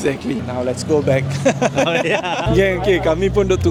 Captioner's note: laugh